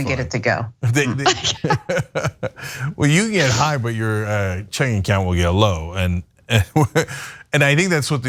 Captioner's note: laugh